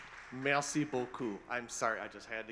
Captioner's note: host speaking foreign language